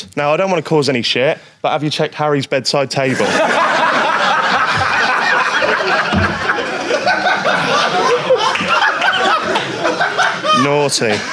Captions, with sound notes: Now I don't want to cause any shit but have you checked Harry's bedside table? (Sidemen laugh) (audience laughs) Naughty.